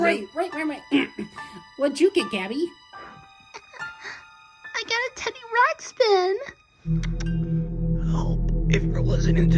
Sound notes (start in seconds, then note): 6.4 clicks Button